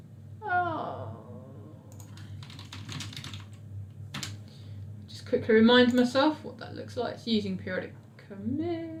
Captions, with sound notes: (groans) (keyboard clicks) Just quickly reminding myself what that looks like using Periodic Commit.